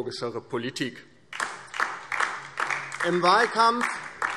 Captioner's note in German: Beifall DIE LINKE